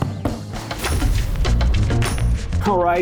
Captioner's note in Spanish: Explosión del logo de BK42